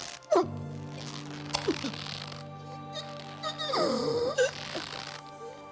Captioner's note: rope stretching, choking noises